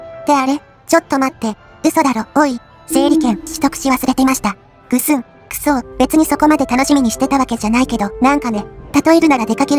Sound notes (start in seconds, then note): 4.9 sad noises